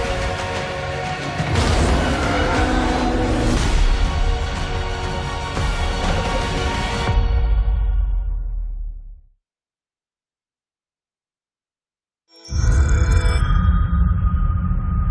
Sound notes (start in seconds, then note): 1.4 deafening roar